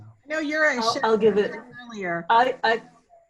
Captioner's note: laughing; faintly speaking